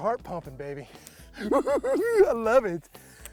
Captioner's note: cackles